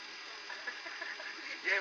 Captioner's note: laughter